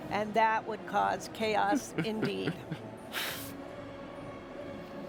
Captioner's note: chuckles